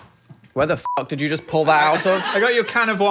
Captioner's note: beep